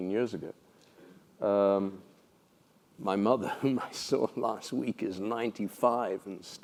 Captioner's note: laugh